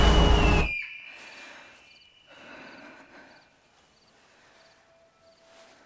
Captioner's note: screams; insects chirping; Scarlet panting; gentle music